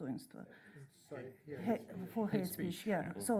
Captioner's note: voiceover